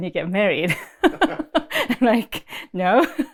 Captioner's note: laughs